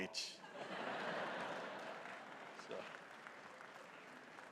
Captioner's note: audience laughing